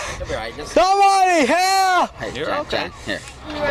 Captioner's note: yelling